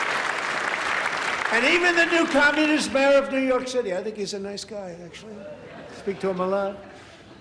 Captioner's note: applause